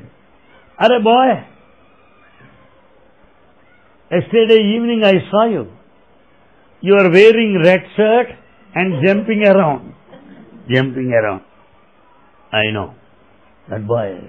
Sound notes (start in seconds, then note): 9.6 laughter